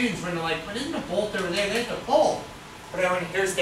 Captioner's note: speaks softly